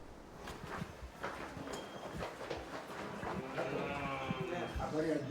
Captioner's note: footsteps